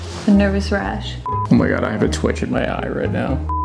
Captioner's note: beep